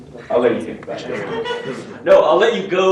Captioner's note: laughter